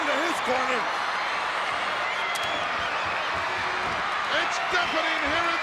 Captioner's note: crowd cheering